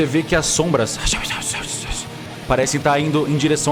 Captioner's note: whispers